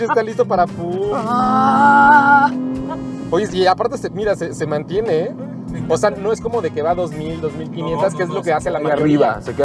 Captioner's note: engine revving